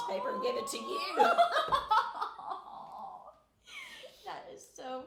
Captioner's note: laughing